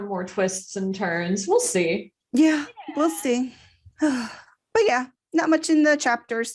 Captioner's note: sigh